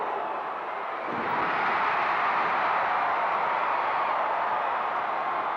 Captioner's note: audience cheering continues